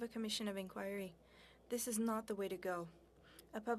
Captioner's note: speaking french